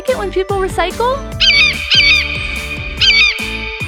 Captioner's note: eagle screech